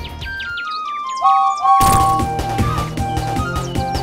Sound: peep peep!!!

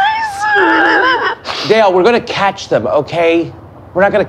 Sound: chuckles

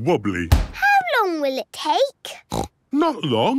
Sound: snorts

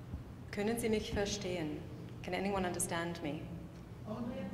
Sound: speaking in foreign language

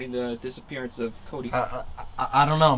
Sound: RICKY stammers

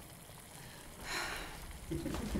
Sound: Angela sighs

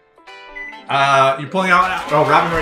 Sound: timer beeps; crowd cheers

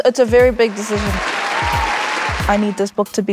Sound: applause

